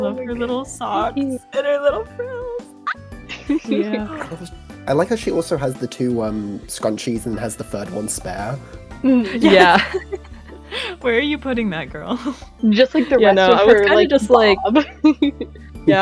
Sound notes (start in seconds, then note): 3.3 general happy muttering; 9.1 laughter; 14.4 laughs